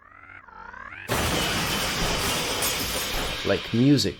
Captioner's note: car slams into wall; enormous car crash sound